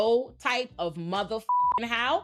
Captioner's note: beep